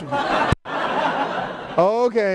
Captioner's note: laughter